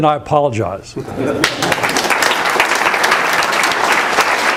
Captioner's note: applause